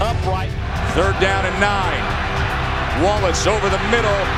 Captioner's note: voiceover